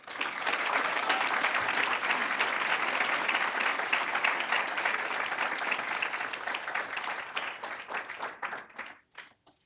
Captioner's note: applause